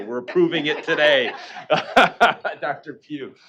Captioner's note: laughing